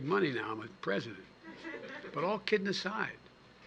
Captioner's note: laughter